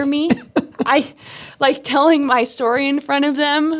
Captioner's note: laughing